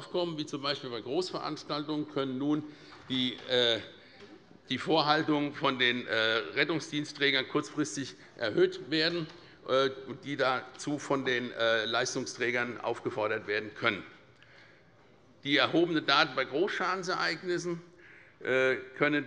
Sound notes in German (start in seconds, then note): none